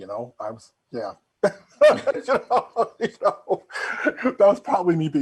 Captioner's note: both laughing